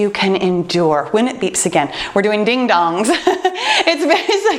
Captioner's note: laughs